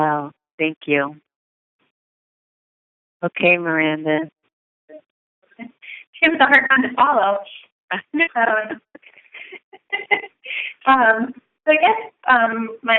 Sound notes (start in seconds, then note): 5.4 chuckle